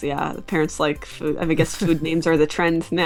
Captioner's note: chuckles